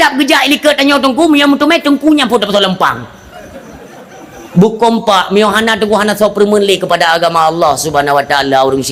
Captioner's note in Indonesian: tertawa